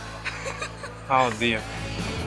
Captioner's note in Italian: risate